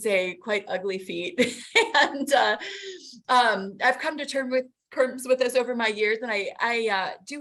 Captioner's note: laughs